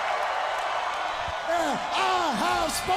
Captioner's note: crowd cheering